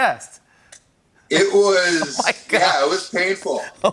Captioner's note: laughing